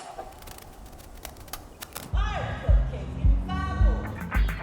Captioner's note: static fizzling